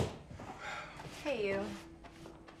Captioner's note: Ben sighs